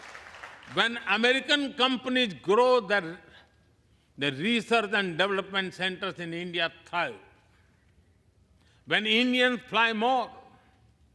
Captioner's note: applause